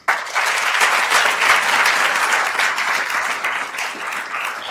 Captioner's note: attendees applauding